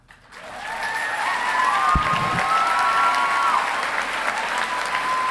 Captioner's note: audience applauding and cheering